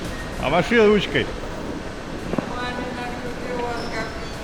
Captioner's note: speaking in Russian